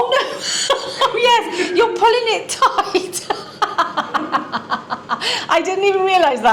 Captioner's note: laughter